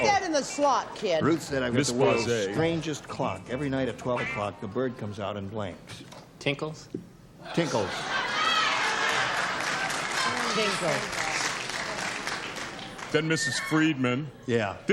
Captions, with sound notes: - Mrs. Ashman, but she got married, became Miss Friedman. - Put that in the slot, kid. - Ruth said, I've got the world's strangest clock. Every night at 12:00, the bird comes out and blanks. - Tinkles. - Tinkles. [cheering] - Tinkles.